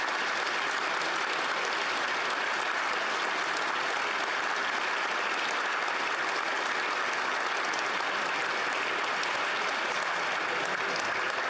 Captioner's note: applause